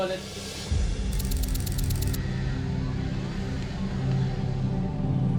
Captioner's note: excited chatter; traffic whizzing